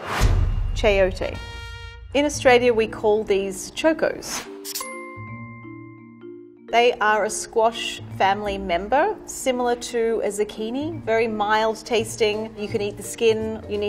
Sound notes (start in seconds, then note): 4.6 ping